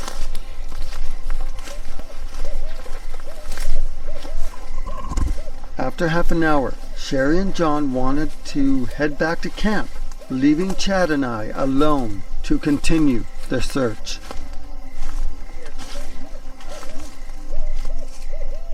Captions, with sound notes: (owl hooting) After half an hour, Sherri and John wanted to head back to camp, leaving Chad and I alone to continue the search. (owl hooting)